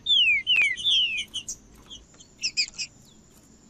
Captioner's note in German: trinca ferro cantando